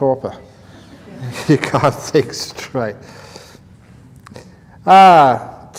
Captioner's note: laughter